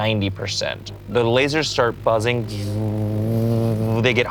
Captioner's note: buzzes